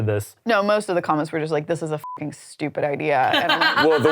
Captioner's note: beep